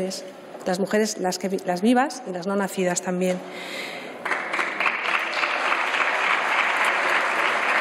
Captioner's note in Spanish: Aplausos